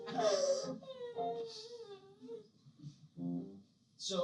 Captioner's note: groans in pain